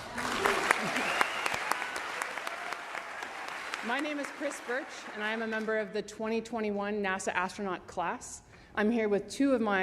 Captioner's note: applause